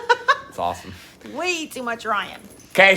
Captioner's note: laughs